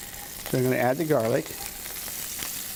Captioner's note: sizzling